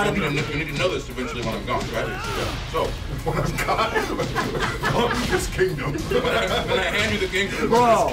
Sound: laugh

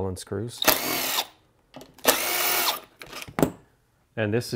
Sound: driver tool roaring

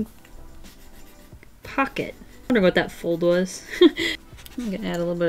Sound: laughs

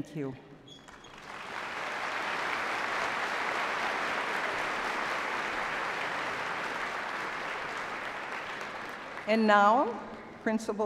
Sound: applause

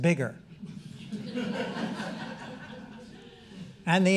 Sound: audience laughing

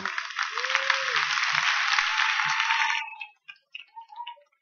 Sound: applause

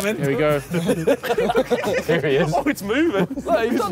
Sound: laughing

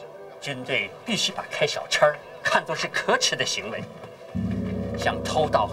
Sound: speaks in foreign language

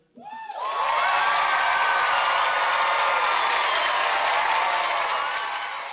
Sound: applause

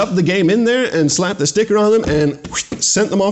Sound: whistles

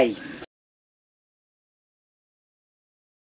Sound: audio Cuts Out

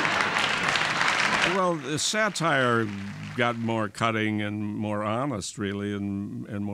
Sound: laughter and applause

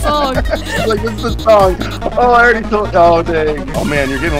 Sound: laughs

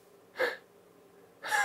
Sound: laughing

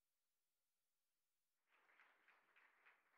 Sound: applause

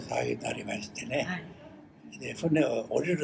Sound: foreign language

